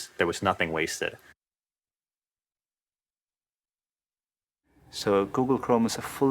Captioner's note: pause